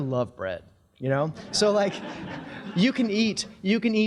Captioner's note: audience laughing